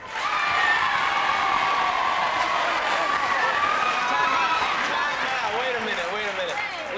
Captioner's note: applause